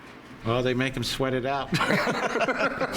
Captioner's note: laughs